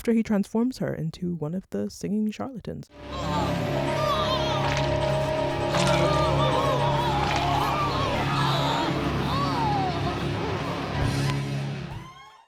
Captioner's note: gross ripping out of intestines noises